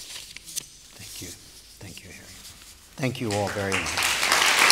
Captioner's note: applause